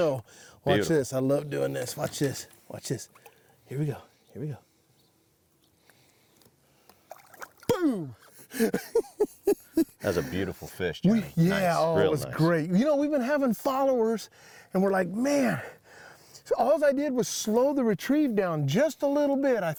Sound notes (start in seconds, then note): 8.4 laughs